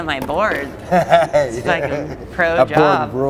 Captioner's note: laughing